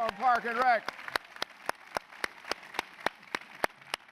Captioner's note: applause